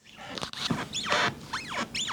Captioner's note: squeaking